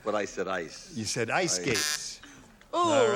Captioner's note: buzzer